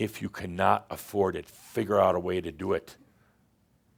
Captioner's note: none